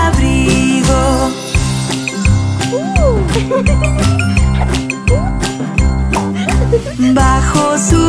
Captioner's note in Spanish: Música Alegre; Risas